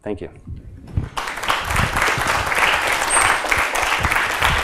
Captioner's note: applause